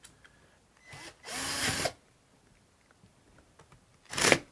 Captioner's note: screwdriver whirs